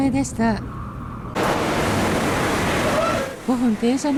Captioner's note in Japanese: 通過列車の音